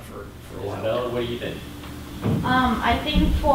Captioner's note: voiceover